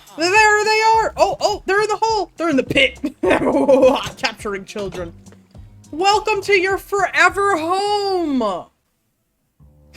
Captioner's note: maniacal laugh